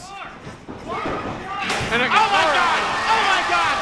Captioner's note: bashing